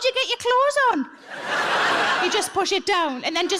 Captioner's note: audience laughs